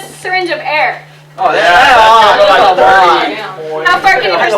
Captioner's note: students agreeing